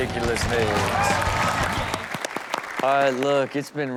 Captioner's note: audience cheers